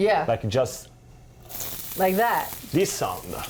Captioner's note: onions sizzling in oil